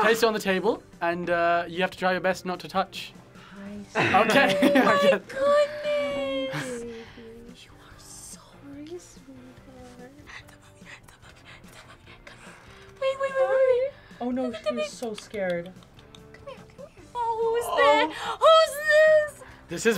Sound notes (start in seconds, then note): 7.0 whispers; 10.4 whispers; 15.4 clicks tongue